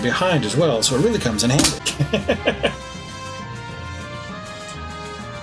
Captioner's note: laughs